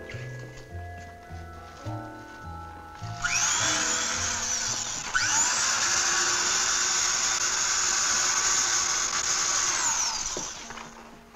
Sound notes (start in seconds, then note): 3.0 drill whirring